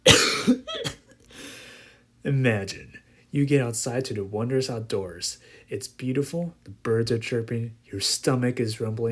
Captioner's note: cough